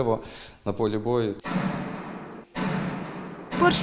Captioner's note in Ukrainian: Звуки пострілів